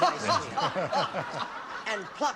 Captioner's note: laughter